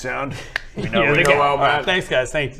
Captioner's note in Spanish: clic